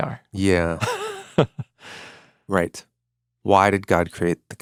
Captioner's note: chuckles